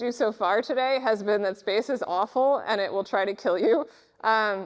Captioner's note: laughs